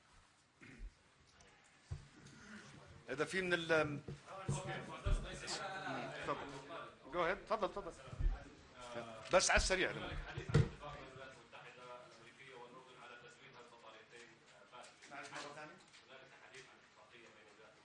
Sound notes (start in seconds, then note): 0.0 in Arabic; 3.1 in Arabic; 9.9 in Arabic